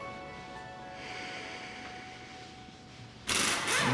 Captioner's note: sighs